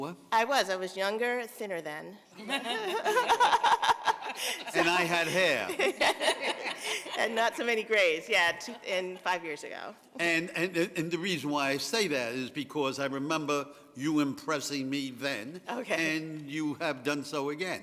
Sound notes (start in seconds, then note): 7.4 laughter